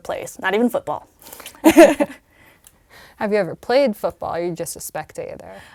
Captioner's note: laugh